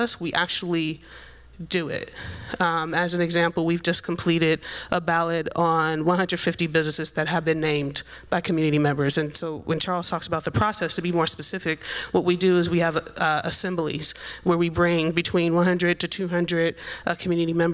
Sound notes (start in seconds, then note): none